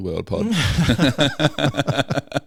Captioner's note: laughing